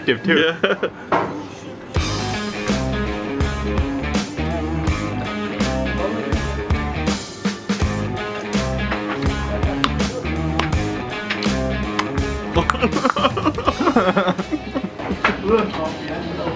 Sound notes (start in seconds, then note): 3.1 chuckles; 4.6 upbeat instrumental music; 9.4 lips smacking; 12.5 laughing